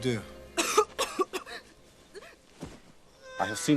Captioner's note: Fanny coughs; Fanny groans